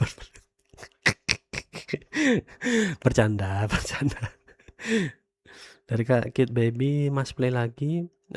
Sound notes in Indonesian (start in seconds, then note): 0.6 tertawa; 1.8 terkesiap